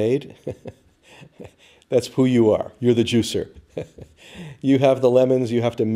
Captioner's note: chuckle